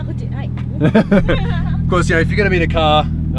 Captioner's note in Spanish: risas